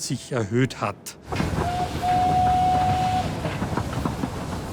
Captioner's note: whistle blows